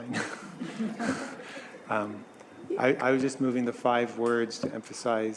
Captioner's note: laughter